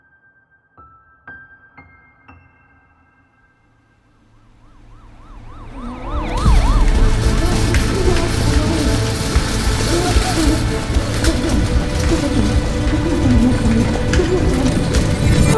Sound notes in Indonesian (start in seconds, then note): 5.2 Suara Sirene Ambulans